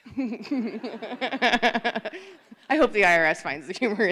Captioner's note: laughter